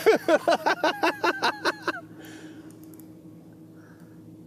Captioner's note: laughing; laughs